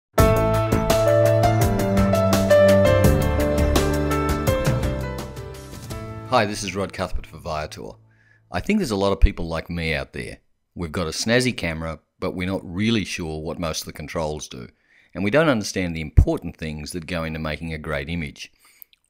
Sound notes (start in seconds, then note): 0.2 lively piano music; 6.3 voiceover